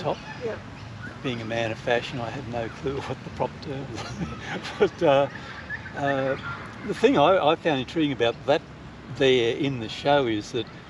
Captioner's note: chuckles